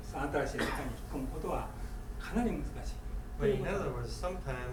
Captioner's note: coughing